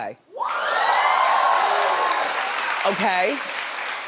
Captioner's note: audience cheering